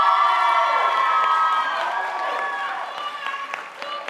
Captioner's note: audience applauding